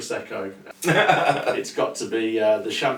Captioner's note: laughs lightly